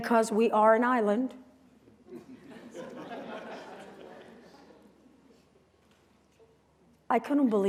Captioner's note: laughter